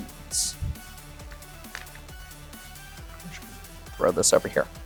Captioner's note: chips clattering